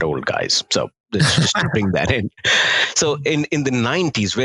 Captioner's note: chuckling